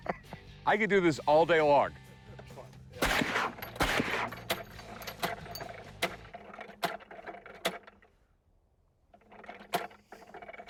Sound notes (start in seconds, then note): 0.0 laughs; 4.7 clicking